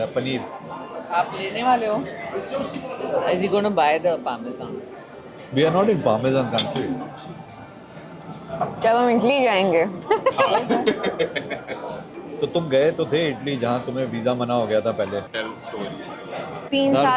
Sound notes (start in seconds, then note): 10.0 laughter